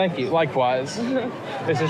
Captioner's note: laughs